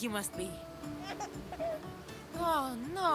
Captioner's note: Elpidios giggling